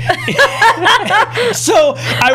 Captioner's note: laughter